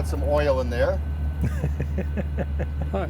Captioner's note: laughs